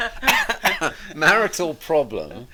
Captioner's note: both laughing; coughs